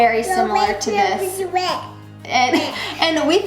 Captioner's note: cute babbling